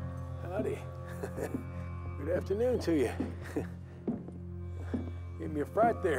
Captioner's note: laughs